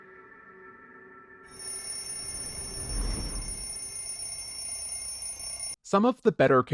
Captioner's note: alarm clock ringing